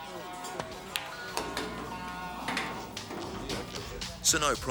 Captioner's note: slow bluesy music; billiard balls clattering